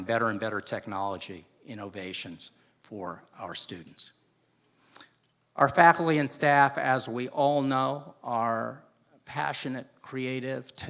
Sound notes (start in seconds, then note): none